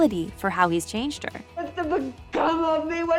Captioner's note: crying